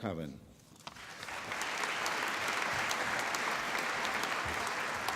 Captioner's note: applause